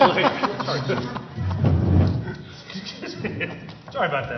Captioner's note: laughter